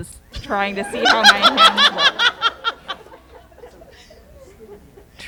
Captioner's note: laughter